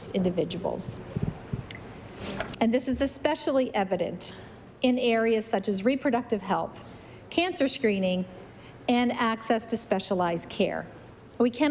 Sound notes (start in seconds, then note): none